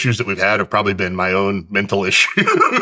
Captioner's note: laughs